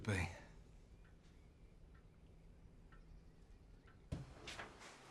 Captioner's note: clock ticking